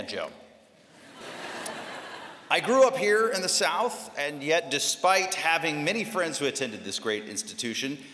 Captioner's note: laughter